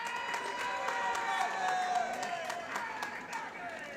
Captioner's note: applause